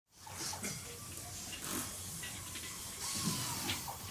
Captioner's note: tools whirring